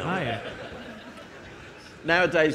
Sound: audience laughing

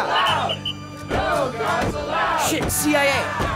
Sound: crowd

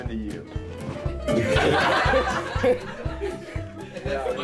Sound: laughs

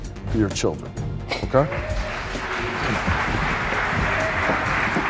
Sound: applause

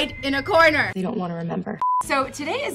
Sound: beeping

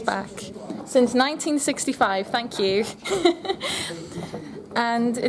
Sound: both laugh

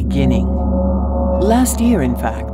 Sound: gong

